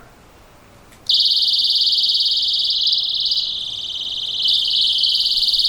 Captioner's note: high pitched sound